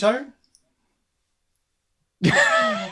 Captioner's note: laughter